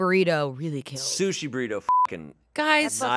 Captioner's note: beep